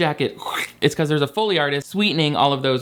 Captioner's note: imitates rip